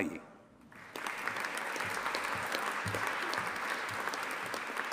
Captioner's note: audience applauding